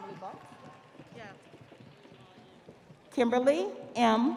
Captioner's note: audience cheering; audience applauding